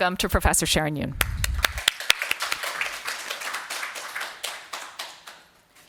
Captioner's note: audience applauding